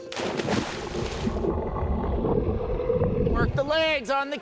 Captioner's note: water splashes